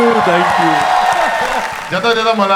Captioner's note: crowd applauding